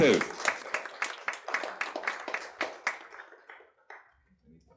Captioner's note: audience applauding